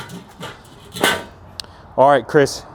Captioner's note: metal clanking